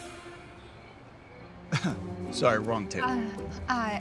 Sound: chuckles

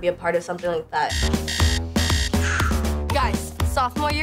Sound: alarm beeping

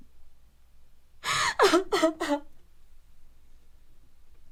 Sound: sobbing loudly

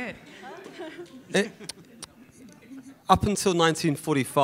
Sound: woman laughing

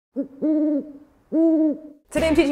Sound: owl noises lol

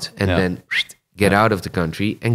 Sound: whistles

